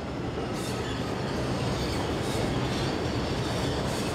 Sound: subway running

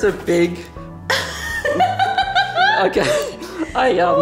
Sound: laughs

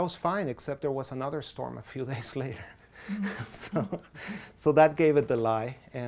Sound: laughs softly

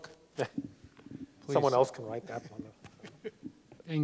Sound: laughs

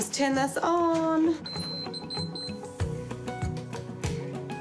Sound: monitor beeps

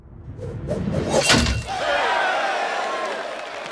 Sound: crowd cheering

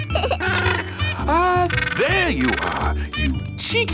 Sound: giggles; honking

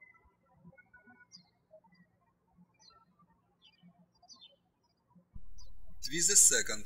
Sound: birds chirping

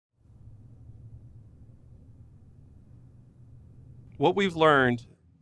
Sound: silence

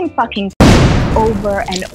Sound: booming sound

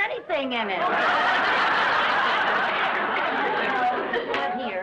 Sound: audience laughs

